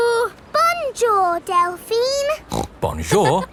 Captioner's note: snorts